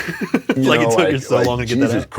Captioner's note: laughs